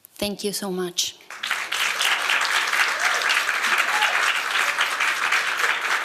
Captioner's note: applause